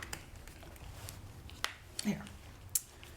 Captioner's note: rivet snapping